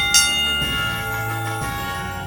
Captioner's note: bell ringing